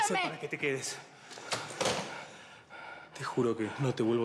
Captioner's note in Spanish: ambos jadean